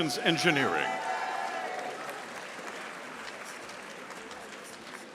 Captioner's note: audience applauding